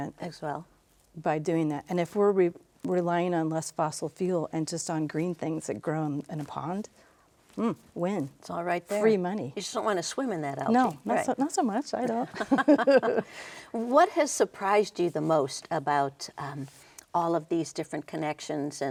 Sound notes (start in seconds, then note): 12.3 both laughing